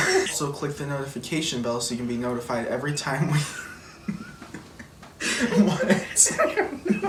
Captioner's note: laughs